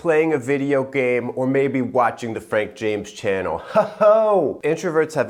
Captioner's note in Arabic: يضحك